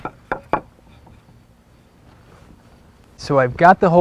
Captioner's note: wood scuffing on wood, no additional audio